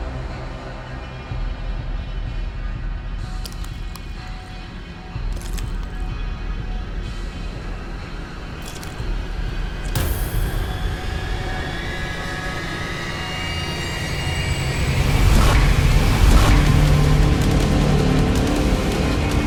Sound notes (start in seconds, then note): 0.3 slow music continues; 6.6 glass clinks; 11.3 slow music continues; 16.1 slow dramatic music